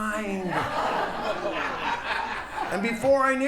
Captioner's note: audience laughs